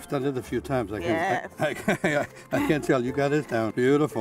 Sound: laughs

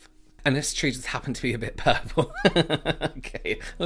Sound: laughing

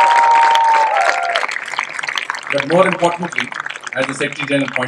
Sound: cheering/Applause

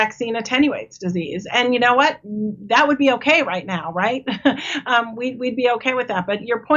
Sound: laughs

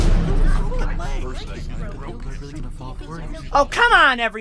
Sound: music stops; students murmur

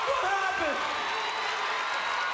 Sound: applause

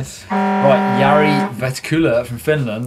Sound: horn blaring

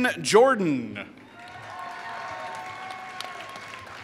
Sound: applause

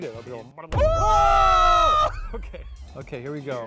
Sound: screaming in devastation; laughs

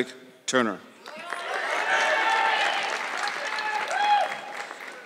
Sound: audience clapping

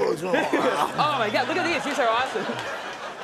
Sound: audience laughing

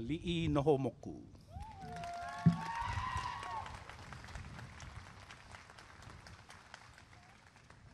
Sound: applause and cheering

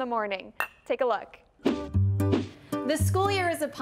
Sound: glasses clinking

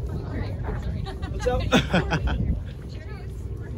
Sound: laughing; laughs

